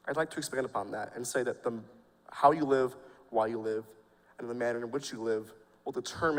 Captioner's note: none